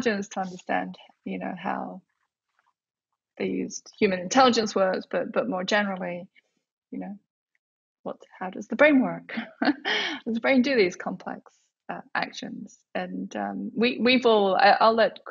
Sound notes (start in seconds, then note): 9.4 laughs